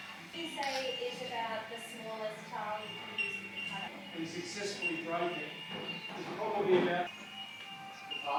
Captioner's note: chatter in the background